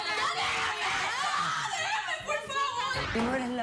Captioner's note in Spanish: gritos